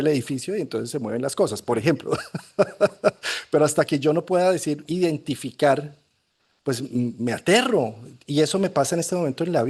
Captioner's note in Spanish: risas